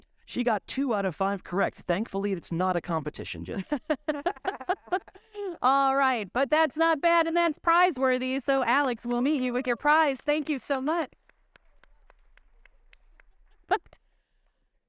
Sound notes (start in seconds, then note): 3.6 chuckling; 11.2 audience clapping